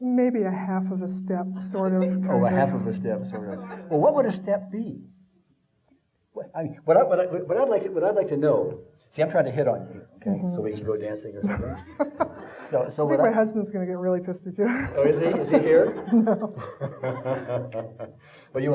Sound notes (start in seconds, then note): 11.4 laughing; 14.7 laughing